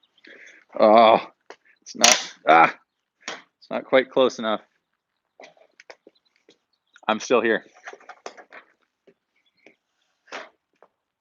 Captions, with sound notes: (groans) Its not quite close enough. I'm still here.